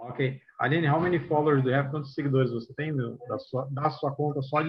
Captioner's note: non-english